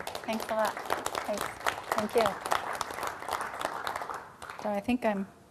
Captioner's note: applause